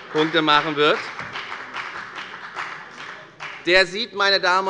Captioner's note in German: Beifall bei der FDP